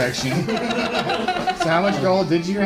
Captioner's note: laughter